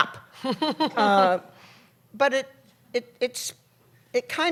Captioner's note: laughter